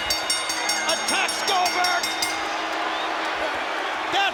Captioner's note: bell rings